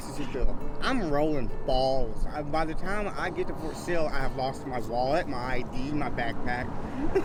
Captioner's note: laughs